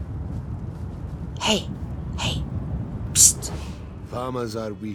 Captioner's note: whispers